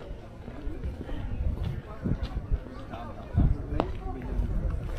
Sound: people chattering

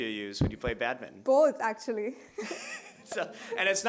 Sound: laughing

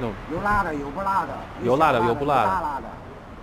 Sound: mandarin

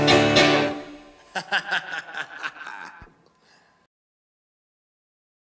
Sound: singer laughing

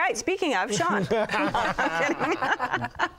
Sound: laughter

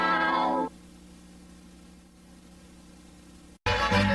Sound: VHS static

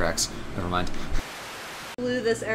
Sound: Static

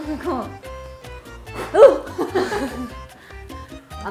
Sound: blowing air

